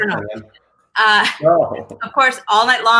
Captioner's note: laughs